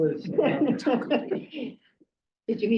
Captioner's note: people laughing